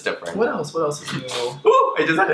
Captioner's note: inhales